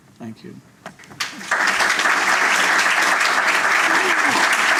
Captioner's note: applause